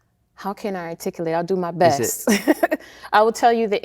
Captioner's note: laughing